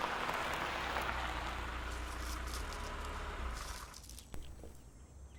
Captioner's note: car rattles and Stops